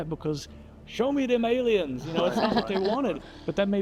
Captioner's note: guests laugh